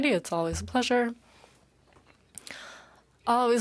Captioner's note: speaking French